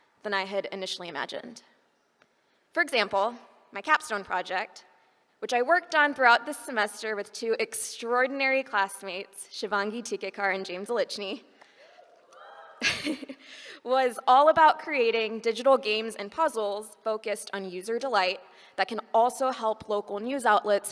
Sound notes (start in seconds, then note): 11.9 laughs